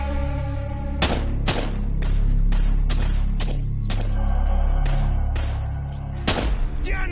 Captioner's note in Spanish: Disparos